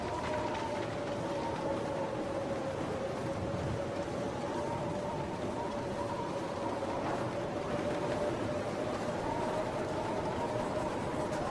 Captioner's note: wind howling